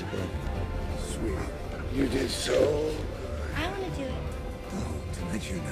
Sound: none

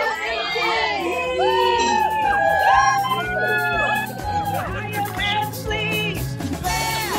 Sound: cheering; crowd

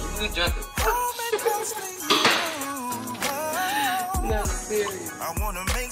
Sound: laughing

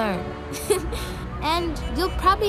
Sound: giggle

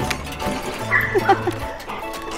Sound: laughs

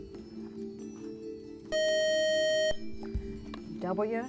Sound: buzzer

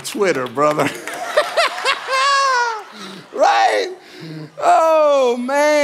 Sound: congregation laughing

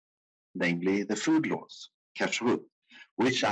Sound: speaking in foreign language

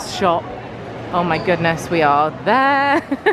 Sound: laughing

